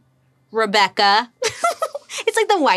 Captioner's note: laughs